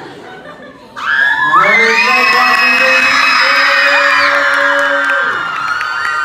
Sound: cheers

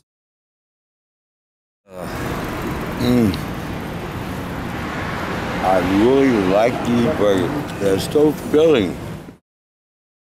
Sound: sighing contentedly

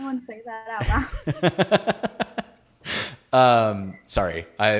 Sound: laughing

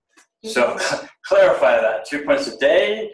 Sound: laughs

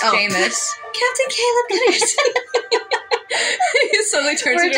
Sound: girly Voice; laughing; both Laugh

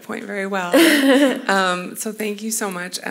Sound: laughs

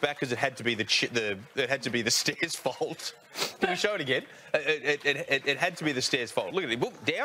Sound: laughs

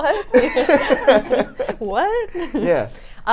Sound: both laugh

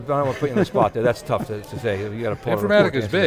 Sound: laughing

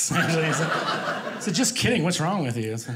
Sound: audience laughing

